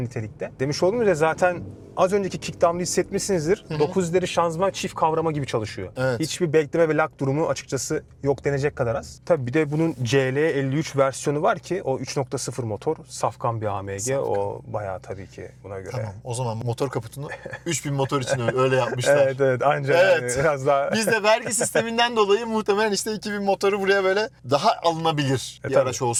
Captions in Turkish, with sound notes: nitelikte. Demiş olduğumuz zaten az önceki kickdı hissetmişsinizdir. 9 ileri şanzıman çift kavrama gibi çalışıyor. Hiçbir bekleme ve lak durumu açıkçası yok denecek kadar az. Tabii bir de bunun CL53 versiyonu var ki o 3.0 motor safkan bir AMG. O bayağı tabii ki buna göre. Tamam [boğazını temizler] o zaman motor kaputunu 3.000 motor için öyle yapmışlar. Evet. Evet. Anca biraz daha Evet. Biz de vergi [kahkaha] sisteminden dolayı muhtemelen işte 2000 motoru buraya böyle daha alınabilir bir araç